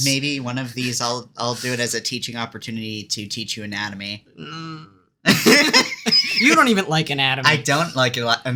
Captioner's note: unhappy noises